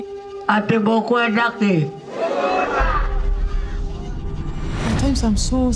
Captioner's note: speaking in foreign language